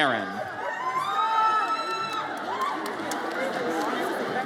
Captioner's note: audience cheers